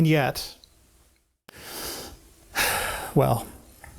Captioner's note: exasperated sigh